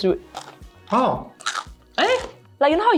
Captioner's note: crunch